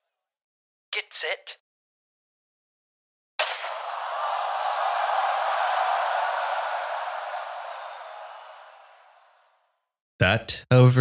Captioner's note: bang; cheers start, then dim